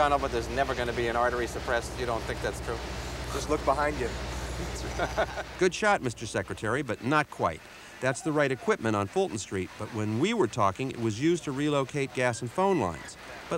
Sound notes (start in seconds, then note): 3.0 reporter laughs